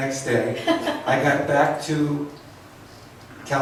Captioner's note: laughs